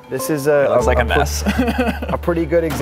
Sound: laughs

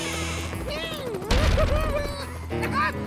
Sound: helicopter whirring; bang

